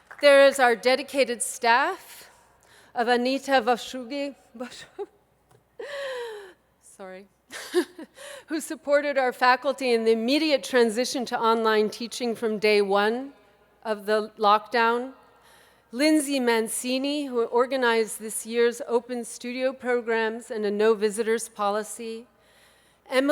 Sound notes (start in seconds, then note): 5.5 laughs